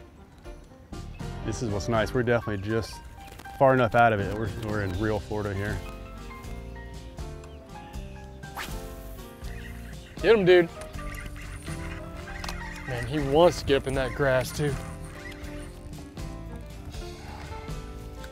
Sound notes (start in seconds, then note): 8.5 reel whizzes; 15.0 relaxing blues music